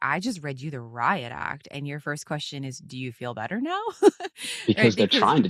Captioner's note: laughs